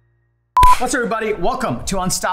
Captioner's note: beeping and hands clapping